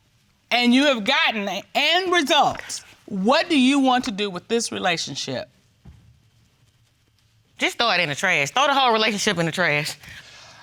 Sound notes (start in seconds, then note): none